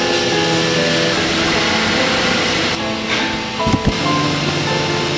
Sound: thread unwinding

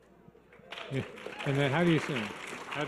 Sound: audience applause

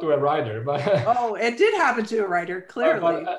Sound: chuckles

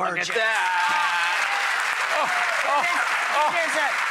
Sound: applause

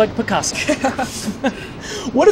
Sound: laughing

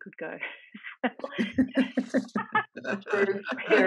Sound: laughs

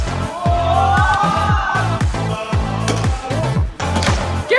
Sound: electronic music; crowd yells

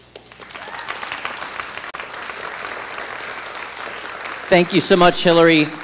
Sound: audience applauding

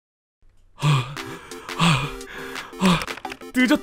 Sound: huff* *Huff* *Huff

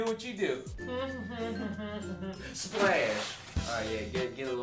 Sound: humming

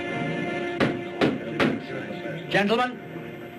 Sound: gavel banging

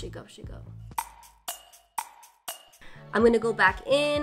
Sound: clock ticking

